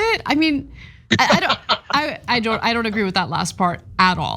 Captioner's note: laugh